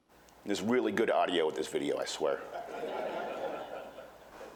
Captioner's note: laughter